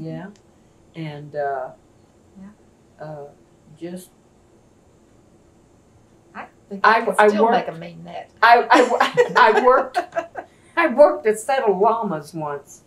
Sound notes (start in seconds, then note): 8.7 laughs